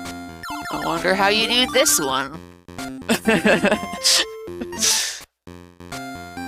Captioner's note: laughs